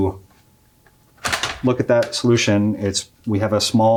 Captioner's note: panel pops